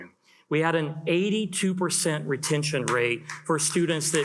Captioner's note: attendees applaud